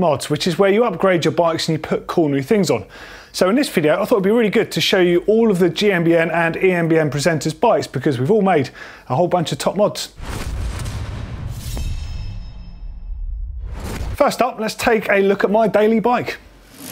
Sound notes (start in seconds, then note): 10.2 air whooshing; 16.7 quick rattle